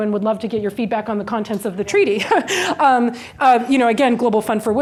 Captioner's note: chuckles